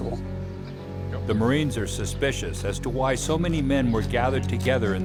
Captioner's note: voiceover